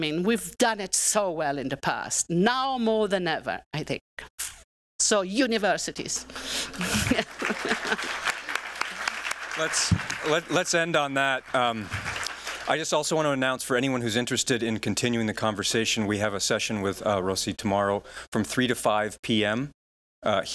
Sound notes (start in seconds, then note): 6.2 applause